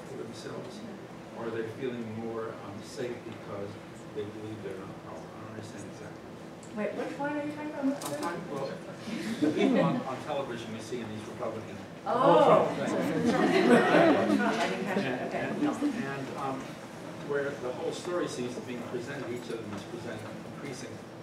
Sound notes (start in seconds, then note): 13.0 laughter